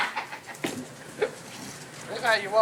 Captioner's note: laughing